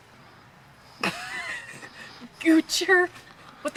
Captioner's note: both laugh